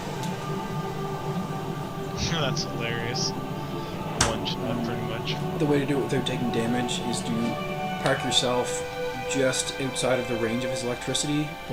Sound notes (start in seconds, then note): 2.1 laughs